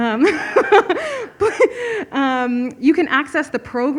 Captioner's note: laughs